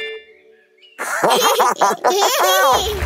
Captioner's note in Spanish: risitas